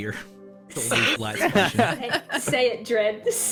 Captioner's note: all laughter